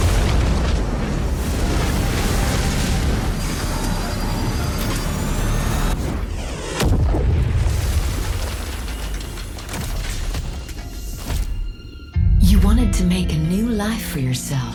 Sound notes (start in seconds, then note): 3.2 rocket roaring